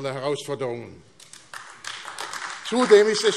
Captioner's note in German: Beifall AfD